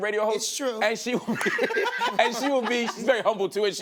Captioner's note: laughs